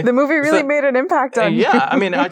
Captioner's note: chuckles